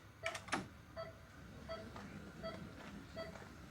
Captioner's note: machines beeping